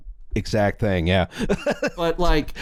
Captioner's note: laughs